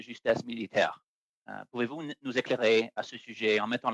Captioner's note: speaking French